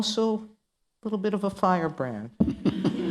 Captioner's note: laughter